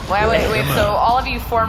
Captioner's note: creepy pervert laughter